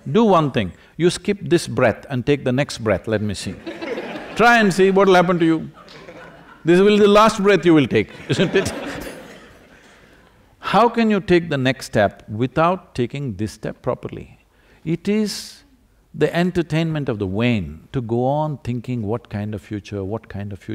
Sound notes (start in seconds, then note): 3.5 few laugh; 3.6 laughter; 7.8 few laugh